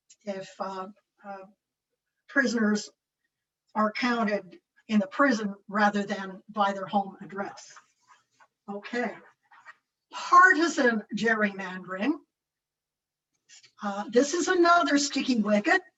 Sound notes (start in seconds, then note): none